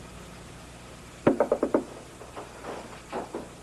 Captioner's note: knocking